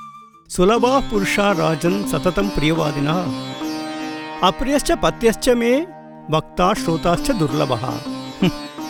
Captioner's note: recites Sanskrit sloka